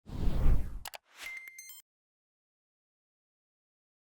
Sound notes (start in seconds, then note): 1.2 beeping